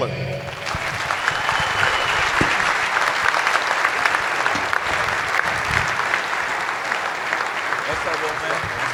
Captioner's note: applause